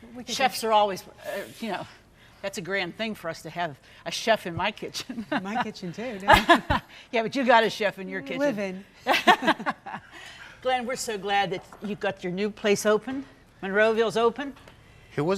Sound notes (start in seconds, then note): 6.7 laughs; 9.4 all laughs